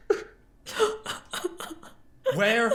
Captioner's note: crying